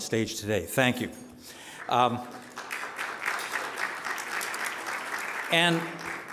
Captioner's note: audience applauding